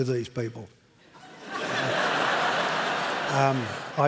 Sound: laughter

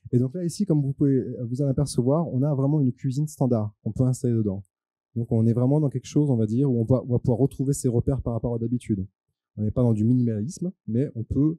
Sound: translating into french

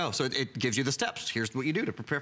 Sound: electronic voice

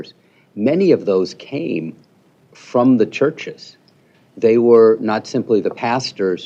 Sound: none

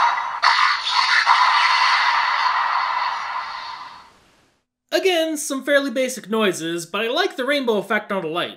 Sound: attack sound

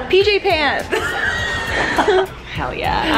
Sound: friend laughing

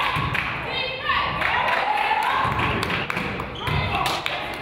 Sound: claps

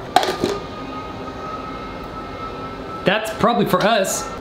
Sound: sirens whirring

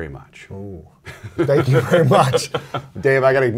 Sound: laughs

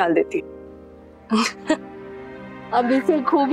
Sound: laughing

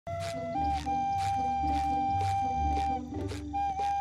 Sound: whistling

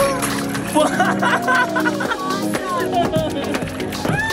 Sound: laughs

